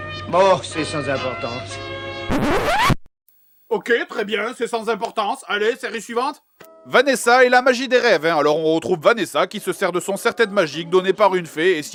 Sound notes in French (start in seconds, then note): 1.1 Musique mièvre-rigolote; 2.3 disque rayé